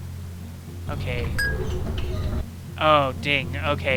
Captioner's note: ding